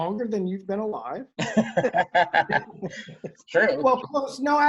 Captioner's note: laughing